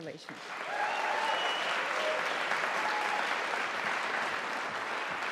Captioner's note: audience applauding